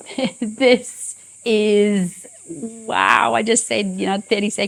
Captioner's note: chuckles